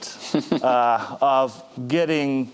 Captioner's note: chuckling